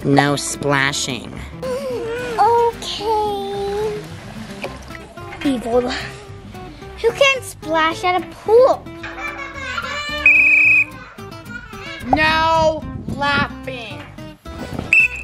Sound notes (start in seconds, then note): 1.3 gasps; 9.0 children laughing; 10.2 whistle blows; 14.9 whistle blows